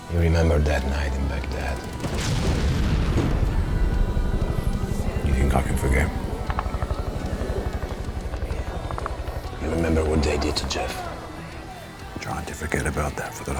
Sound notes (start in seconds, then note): 2.6 bombs exploding; 4.1 gun firing